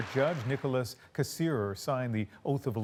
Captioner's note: applause